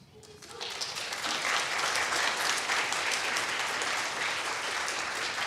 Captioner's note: people clapping